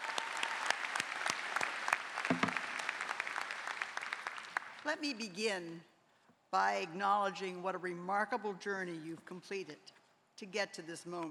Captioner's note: applause